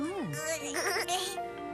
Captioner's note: gigiggggleless